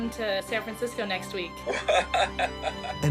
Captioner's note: chuckles